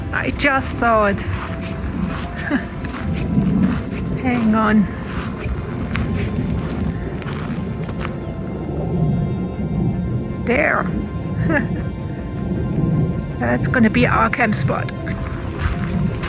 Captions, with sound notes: I just saw it! [laughs] Hang on. There. [laughs] That's going to be our campspot.